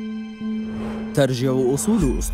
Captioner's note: wind whooshing